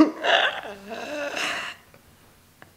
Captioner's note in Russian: смеётся с моей тупости